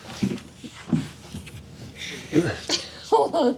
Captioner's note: laughs